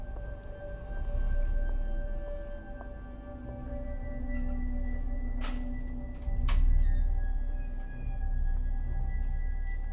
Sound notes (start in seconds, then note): 6.5 drawer clicks